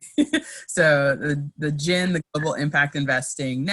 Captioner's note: laughs